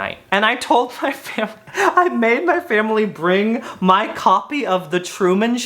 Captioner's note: chuckles